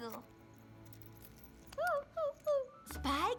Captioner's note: whimper